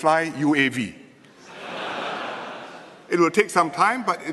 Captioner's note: laughter